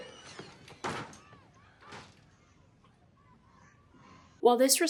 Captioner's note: door slums loudly